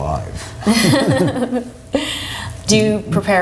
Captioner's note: laughs